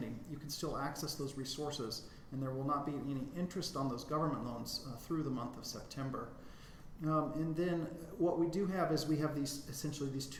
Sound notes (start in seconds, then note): none